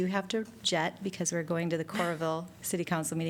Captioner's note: laughter